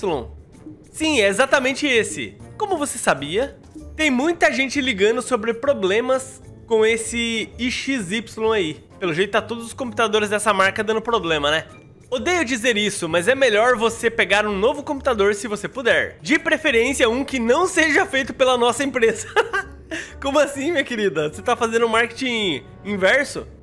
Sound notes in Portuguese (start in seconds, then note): 19.1 risos